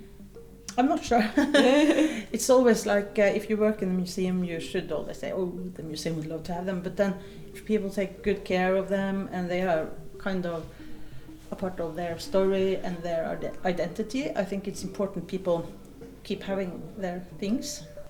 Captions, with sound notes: - I'm not sure. (both chuckling) It's always like, if you work in the museum, you should always say, "Oh, the museum would love to have them." But then if people take good care of them and they are kind of a part of their story and their identity, I think it's important people keep having their things.